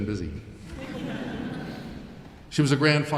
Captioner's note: audience laughing